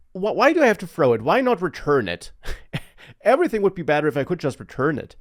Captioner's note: laughs